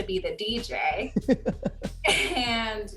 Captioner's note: laughs